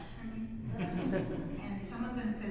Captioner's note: audience laughs